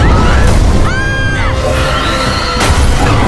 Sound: bangs; girl screaming; loud roaring

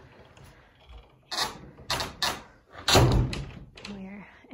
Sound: door creaks shut

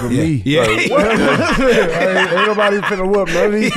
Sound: everyone laughs

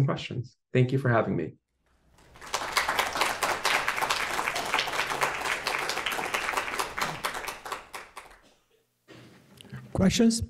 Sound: applause

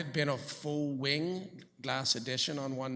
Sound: none

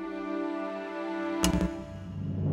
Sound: light turns on

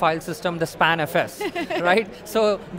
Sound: laughing

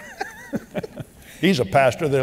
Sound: laughs

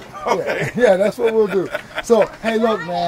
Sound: laughing

